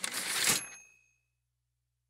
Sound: typewriter ding

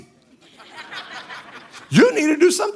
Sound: congregation laughing

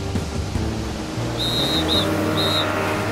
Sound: whistle blowing

